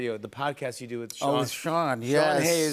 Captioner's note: normal voice